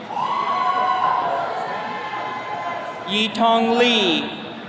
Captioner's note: attendees cheering